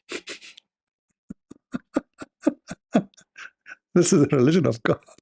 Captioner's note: Ketawa